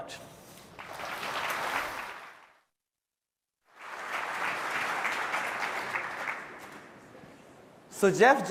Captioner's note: applause